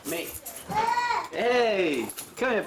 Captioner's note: child calls